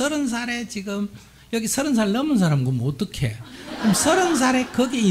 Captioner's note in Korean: 청중 웃음